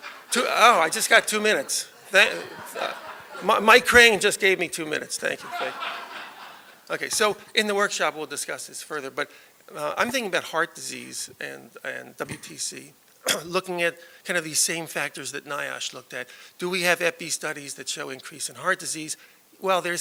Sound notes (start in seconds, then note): 0.0 laughter; 5.3 laughter